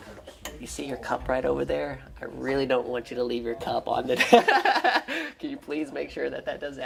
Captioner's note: laughter